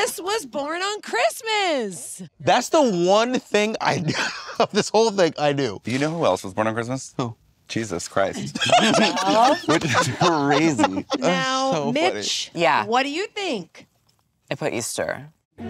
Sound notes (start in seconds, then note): 8.3 laughs